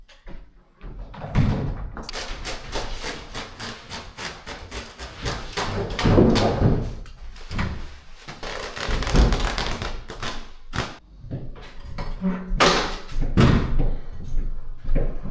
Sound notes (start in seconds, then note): 0.0 drill whirring; 2.1 footsteps